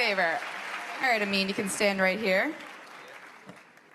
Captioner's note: applause